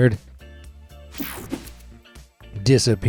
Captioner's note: screen whooshing